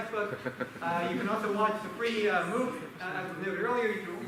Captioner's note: laughter